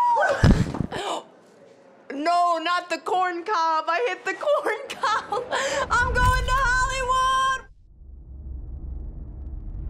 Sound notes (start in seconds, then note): 0.1 mic gets hit; 0.2 gasps; 4.5 laughs